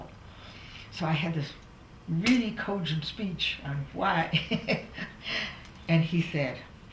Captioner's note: laughs